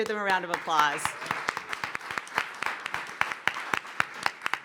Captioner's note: applause